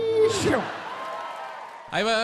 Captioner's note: audience applauds and cheers